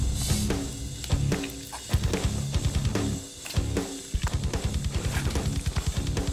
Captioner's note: rock music; blade impacts